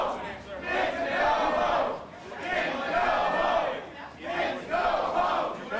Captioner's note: crowd chanting